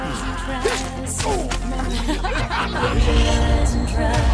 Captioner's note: laughing